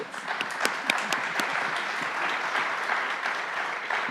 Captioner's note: audience applauds